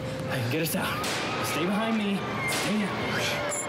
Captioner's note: gunshot